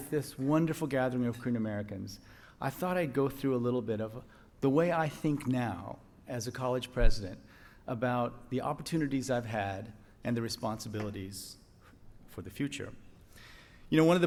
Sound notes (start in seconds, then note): none